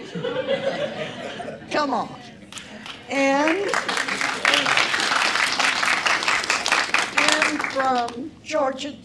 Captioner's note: applause